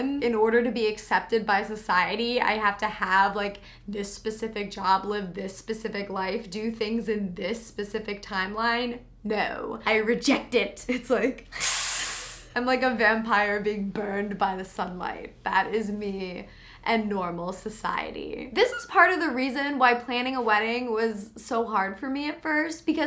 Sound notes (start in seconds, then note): 11.6 hisses